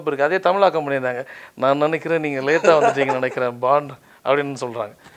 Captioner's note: says the same in Tamil